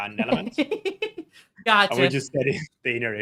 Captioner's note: giggles